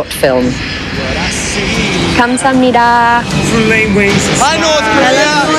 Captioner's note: foreign Language